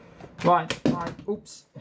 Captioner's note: remote control dropped